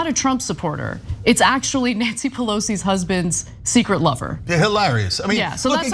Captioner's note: laugh